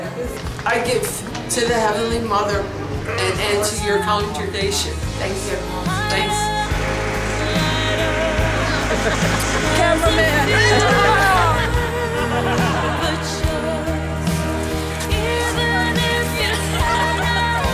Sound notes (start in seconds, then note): 12.0 laughing